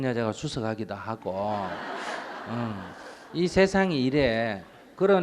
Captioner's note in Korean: 청중 웃음